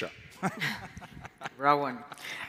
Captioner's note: laughs